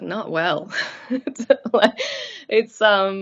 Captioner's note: chuckles